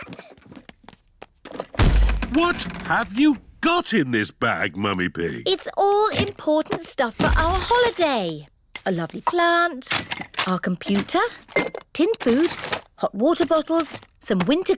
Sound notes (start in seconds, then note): 0.1 peppa and george giggling; 1.7 thud